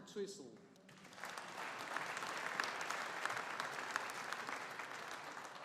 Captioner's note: audience applauding